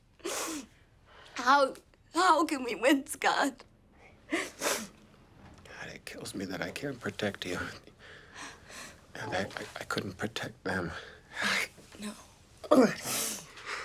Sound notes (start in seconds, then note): 4.3 sobs